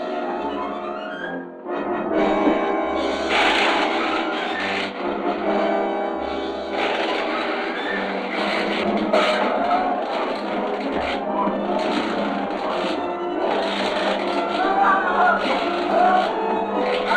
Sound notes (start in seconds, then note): 3.0 electricity crackling; 14.6 Krenner screaming